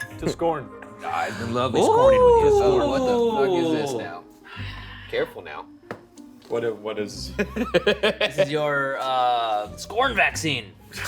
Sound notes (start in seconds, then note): 1.7 ghostly wailing; 7.4 laughing